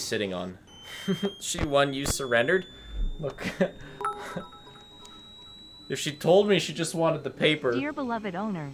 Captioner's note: laughs